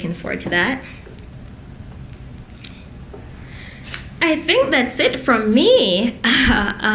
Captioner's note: laughs